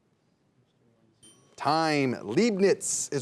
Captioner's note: bell dinging